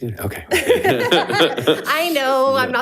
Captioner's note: group laughs